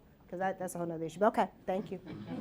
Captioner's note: laughter